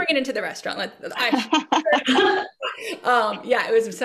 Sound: participants laugh

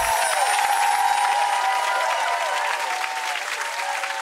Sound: audience applauds

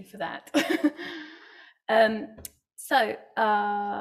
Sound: laughs

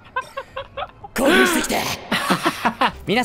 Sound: laughs

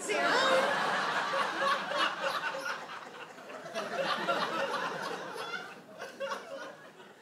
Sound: audience laughs

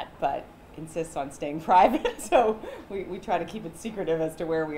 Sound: chuckles

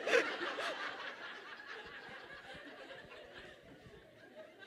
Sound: audience laughs

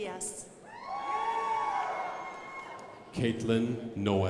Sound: crowd applauding

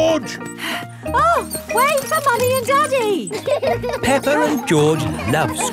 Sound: panting

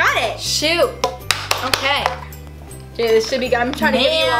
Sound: clapping

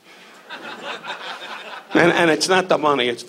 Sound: audience laughs

